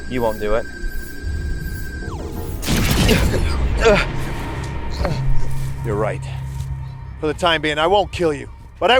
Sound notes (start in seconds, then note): 2.7 laser firing; 4.1 Trevor groaning